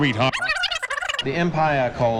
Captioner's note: disk scratches